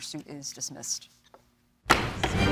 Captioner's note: gavel bangs